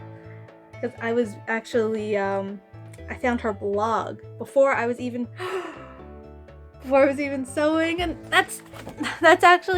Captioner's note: gasp of delight